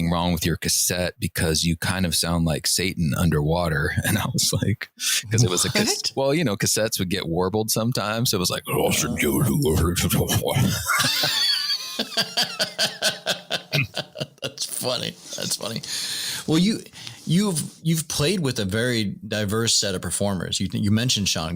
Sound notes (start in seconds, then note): 10.3 laughter; 11.3 warbled noise